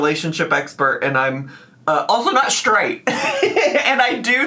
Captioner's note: laughing